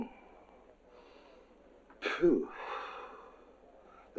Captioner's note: inhales; exhales